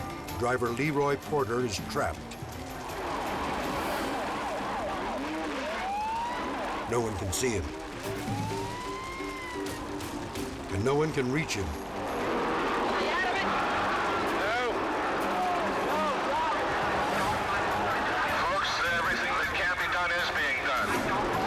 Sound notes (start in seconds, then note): 2.6 sirens wailing; 2.6 tense music; 8.1 sirens wailing; 15.4 fire raging